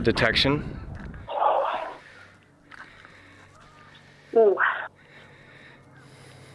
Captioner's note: sighs, breaths out